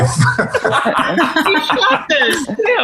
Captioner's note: everyone laughing